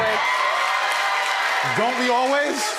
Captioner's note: audience cheering